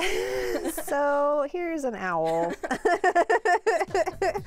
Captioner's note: chuckles